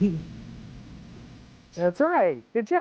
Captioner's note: laughs